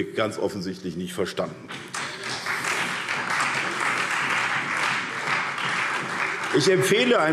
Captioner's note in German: Beifall SPD und Freie Demokraten